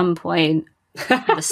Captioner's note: laughs